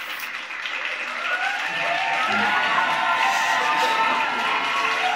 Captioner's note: audience cheering